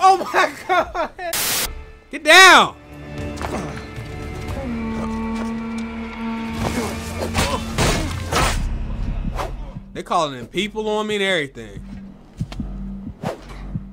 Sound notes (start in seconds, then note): 1.3 static; 7.2 sword clashes